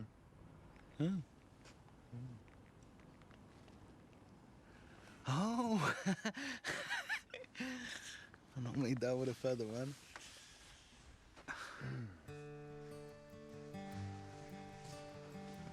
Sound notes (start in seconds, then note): 6.2 laughs; 12.2 gentle music